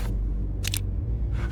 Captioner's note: gun cocking